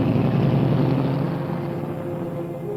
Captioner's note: car rumbling